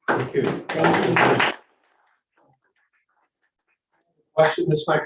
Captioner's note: group applauding